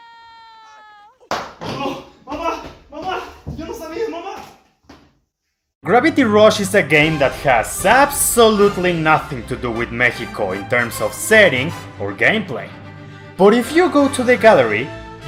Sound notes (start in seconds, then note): 1.3 smack